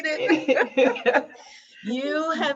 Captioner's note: both laughing